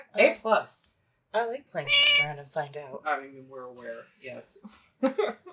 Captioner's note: meow